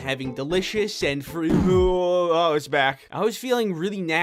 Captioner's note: groans